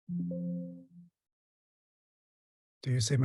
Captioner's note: software chimes